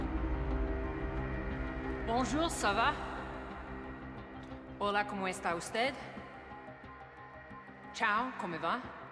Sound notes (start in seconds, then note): 0.2 tense music continues; 2.2 Maeve speaking in foreign languages